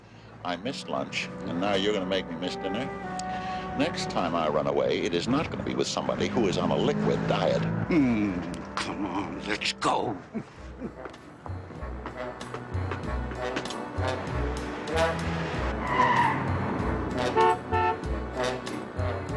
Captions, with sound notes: l missed lunch, and now you're going to make me miss dinner? Next time l run away, it is not going to be with somebody who's on a liquid diet. Ergh! Come on. Let's go. [Tires screech] [Horn honks]